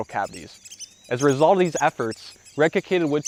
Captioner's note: birds chirping